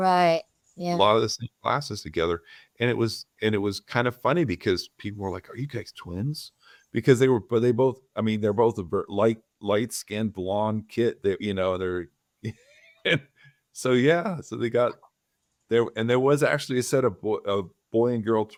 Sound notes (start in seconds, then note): 12.4 laugh